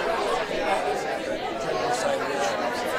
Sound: none

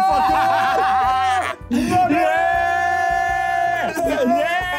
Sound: group cheering

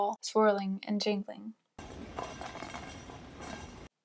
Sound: sounds of bells

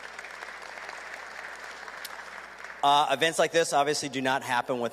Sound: applause

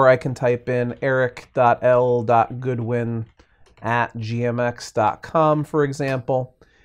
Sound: types on keyboard

